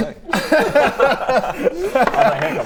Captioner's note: underwhelmed laughter